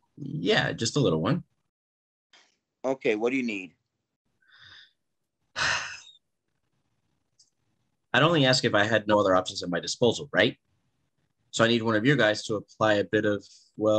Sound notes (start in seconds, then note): 5.5 Cal sighing